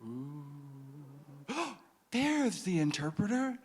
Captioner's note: man gasping